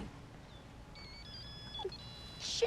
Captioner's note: phone Ringing